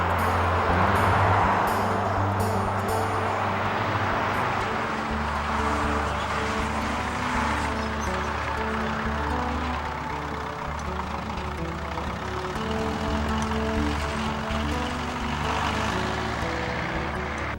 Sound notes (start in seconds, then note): 1.9 traffic sounds